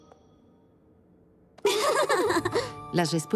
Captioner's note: giggle